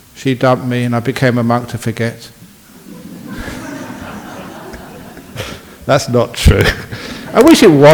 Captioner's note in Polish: śmiech